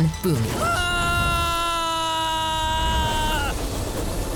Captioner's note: screaming